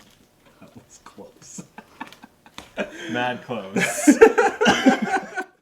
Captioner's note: laughing